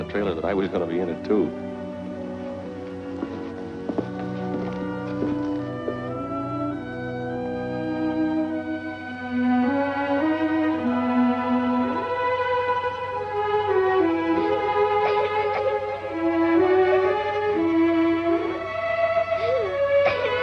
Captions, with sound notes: in the trailer that I was gonna be in it, too. [somber instrumental music] [Jessica sobs]